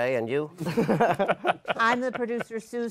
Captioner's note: laughter